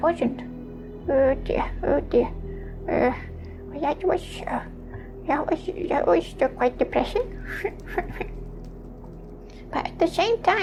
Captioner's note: sob